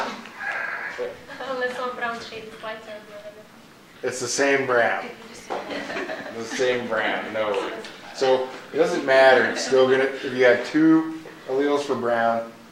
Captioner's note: the students chuckle